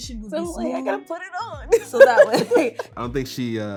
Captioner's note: laughs